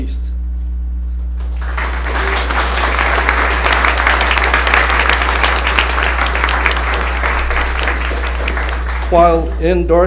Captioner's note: applause